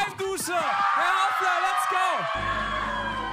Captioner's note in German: Jubel